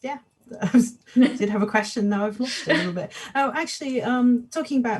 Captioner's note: laughs